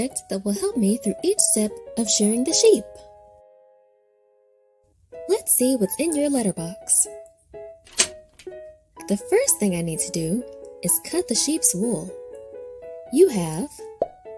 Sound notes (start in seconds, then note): 7.8 lock clicking; 14.0 objects popping